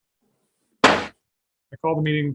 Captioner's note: gravel bangs